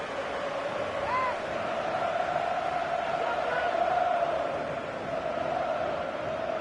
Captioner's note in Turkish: coşkulu tezahürat